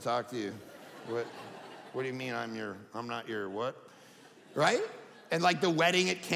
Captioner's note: audience laughing